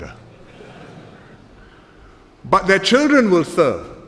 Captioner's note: laughter